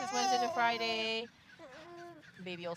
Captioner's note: baby whining